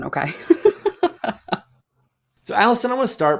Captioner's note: laughs